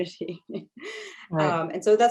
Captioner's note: laughs